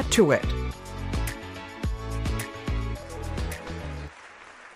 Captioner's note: audience applause